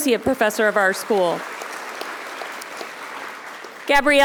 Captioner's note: audience applauding